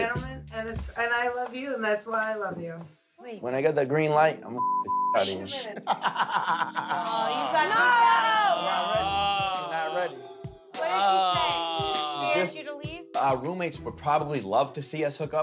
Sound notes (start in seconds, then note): 5.3 laughing